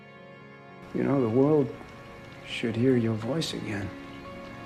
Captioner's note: voiceover